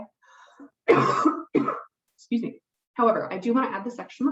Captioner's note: coughs